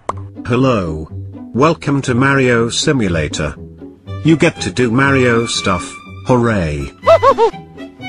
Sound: uninterested tone

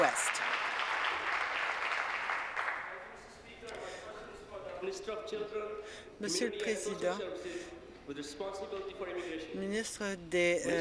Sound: applause

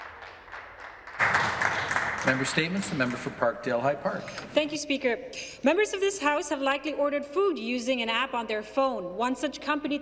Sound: some Applause

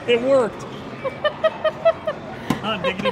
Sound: laughs

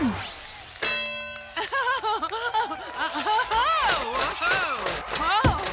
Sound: bell dings; Leela laughs

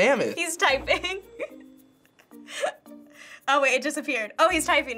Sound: laughs

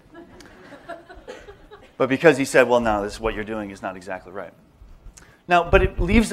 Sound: laughter

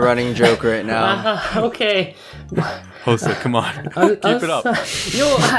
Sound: laughs; deep breaths

